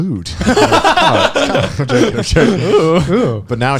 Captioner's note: all laughing